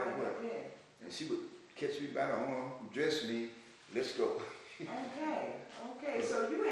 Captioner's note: laughs